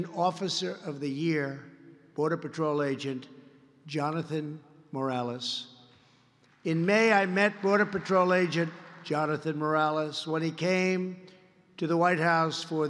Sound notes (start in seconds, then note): 6.5 applause